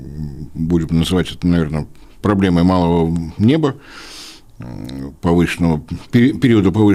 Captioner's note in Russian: фыркает